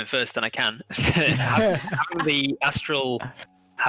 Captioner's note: all laugh